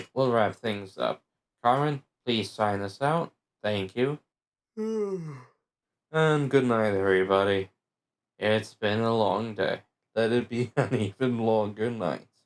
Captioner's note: yawn